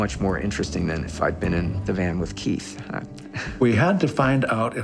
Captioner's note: laughs